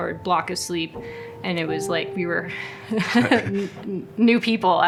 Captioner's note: both laugh